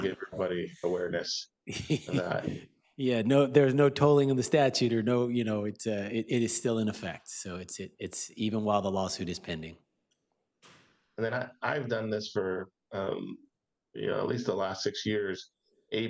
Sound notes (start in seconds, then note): 3.7 chuckles